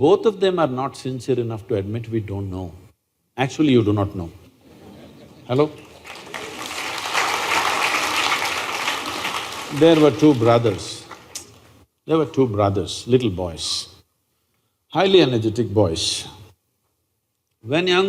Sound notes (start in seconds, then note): 4.7 laughter/Applause